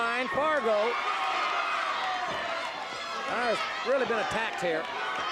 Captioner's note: audience cheers